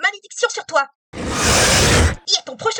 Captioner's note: satisfied growl